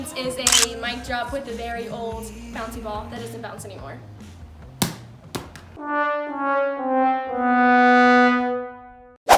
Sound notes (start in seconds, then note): 4.9 thump; 5.8 sad horn sound